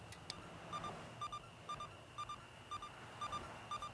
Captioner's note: device blipping